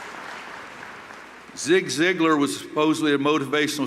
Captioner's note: applause